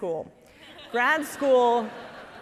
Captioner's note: audience laughing